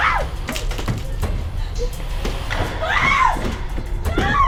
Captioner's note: Gessica screams